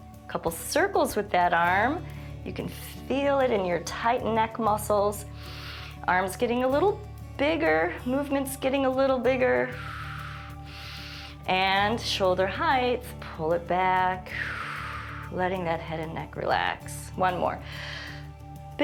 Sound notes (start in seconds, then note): 5.3 inhales; 9.6 exhales and inhales; 14.2 exhales; 17.6 inhales